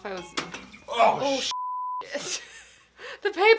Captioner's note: thud & splash